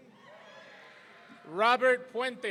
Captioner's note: audience cheering